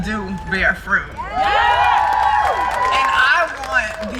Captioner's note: crowd cheering